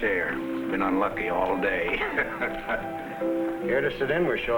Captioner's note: chuckles